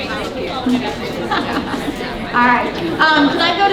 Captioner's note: audience chattering